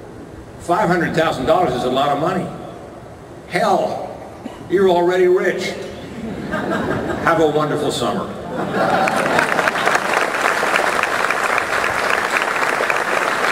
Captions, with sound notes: 500,000 dollars is a lot of money. Hell, you're already rich. (audience laughter) Have a wonderful summer. (audience applause)